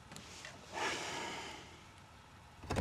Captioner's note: sighs